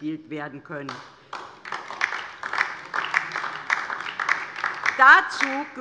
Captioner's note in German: Beifall DIE LINKE